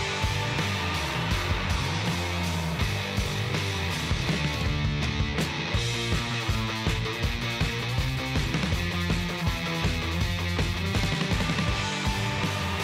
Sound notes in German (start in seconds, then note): 0.1 Beifall